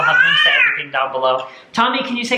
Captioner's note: baby screaming